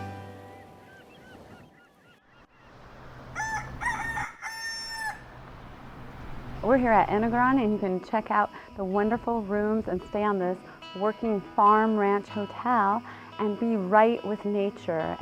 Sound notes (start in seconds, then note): 2.5 sound: rooster crowing